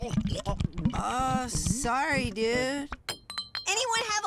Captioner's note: gulping